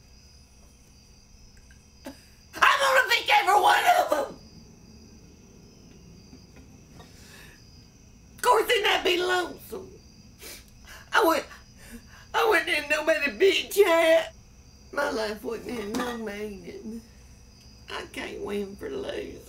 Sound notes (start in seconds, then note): 5.1 cries